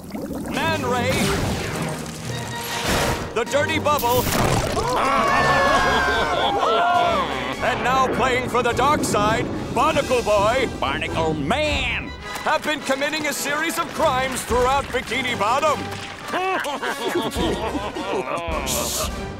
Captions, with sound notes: Man Ray. The Dirty Bubble [screaming, Dirty Bubble laughing] And now playing for the dark side Barnacle Boy. Barnacle Man! Have been committing a series of crimes throughout Bikini Bottom. [laughing] Shh.